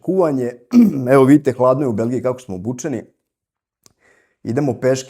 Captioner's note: coughs